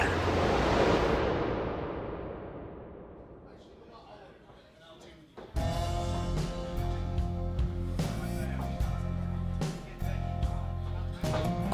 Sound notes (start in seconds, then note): 3.3 people chattering; 5.6 instrumental music playing